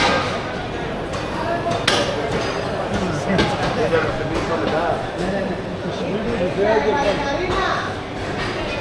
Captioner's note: crowd chattering